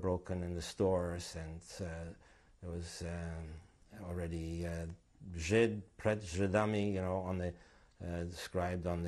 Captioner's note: non-english